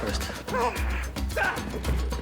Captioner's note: grunting